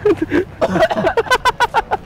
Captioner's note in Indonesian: ketawa; batuk